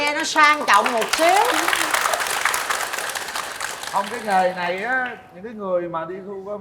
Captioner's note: applause